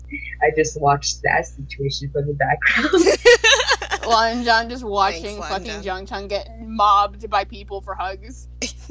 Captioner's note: laughing